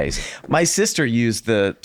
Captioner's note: none